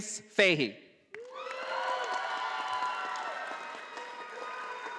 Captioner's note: audience applauding